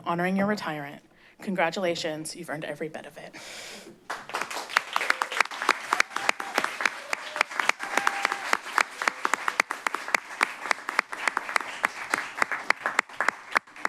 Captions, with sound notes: honoring your retirement. Congratulations, you've earned every bit of it. [applause]